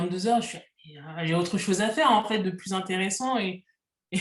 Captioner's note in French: rires